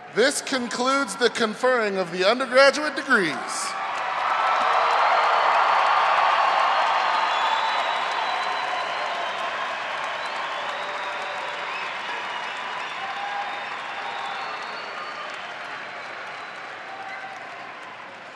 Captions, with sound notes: - This concludes the conferring of the undergraduate degrees. (audience applauding)